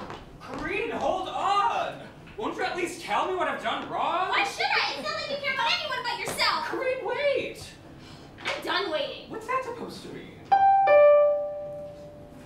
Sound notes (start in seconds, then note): 10.5 doorbell